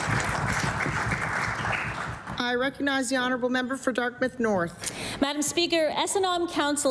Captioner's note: applause